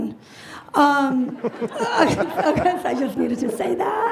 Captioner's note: panel and audience laughs